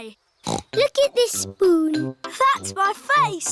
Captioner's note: snorts